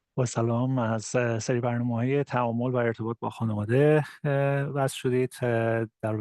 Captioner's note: farsi interpreter speaking Farsi